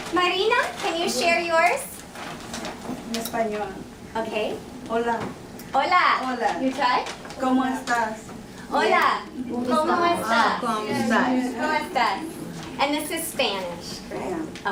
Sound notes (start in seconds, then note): 7.0 Spanish spoken